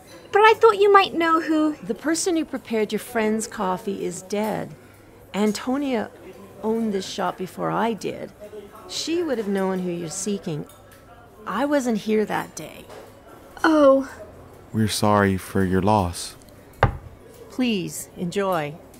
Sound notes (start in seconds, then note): 16.8 cora slams the cups down